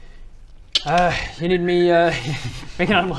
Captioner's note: clicks and whistles